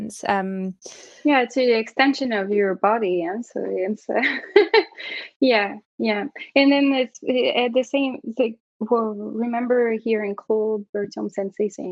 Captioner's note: laughter